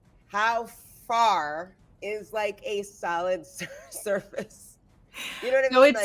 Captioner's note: chuckles